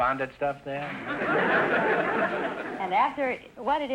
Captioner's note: audience laughter